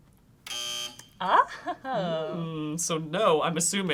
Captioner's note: buzzing